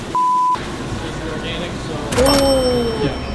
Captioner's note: beep